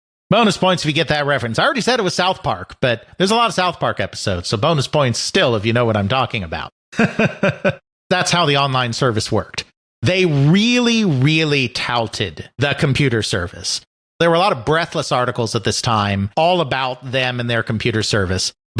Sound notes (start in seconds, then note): 6.9 chuckles